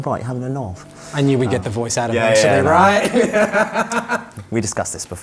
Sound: both laugh

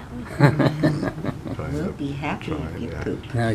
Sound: laughing

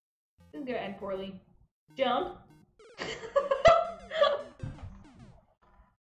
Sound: laughs

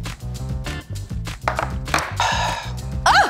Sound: jazzy music continues; glasses clinking

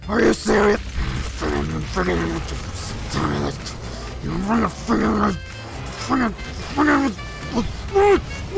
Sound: enraged mumbling

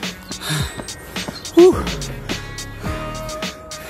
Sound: suara keluhan karena capek

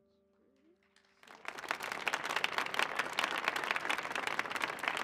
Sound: audience applauding

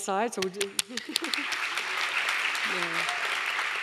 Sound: audience applauding

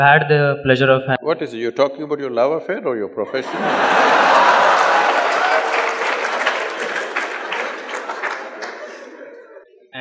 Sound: laughter/Applause

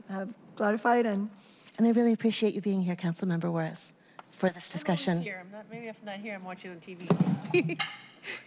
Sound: laughter

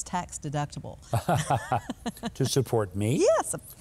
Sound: both laughing

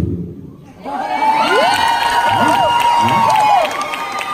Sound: crowd cheers

